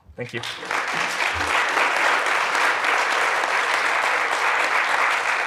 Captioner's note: audience applauding